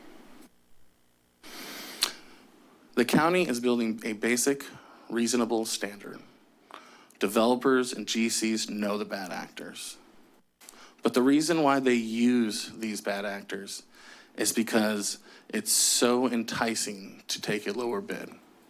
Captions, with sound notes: [clicks tongue] The county is building a basic reasonable standard. Developers and GCs know the bad actors, but the reason why they use these bad actors is because it's so enticing to take a lower bid.